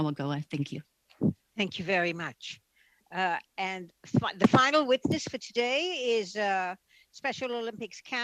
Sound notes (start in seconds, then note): 2.8 speaking Alternate Language